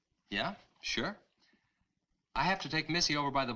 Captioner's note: none